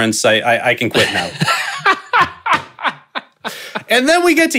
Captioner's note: laughing